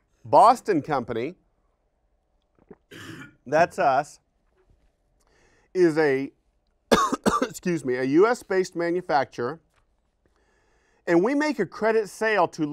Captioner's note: coughing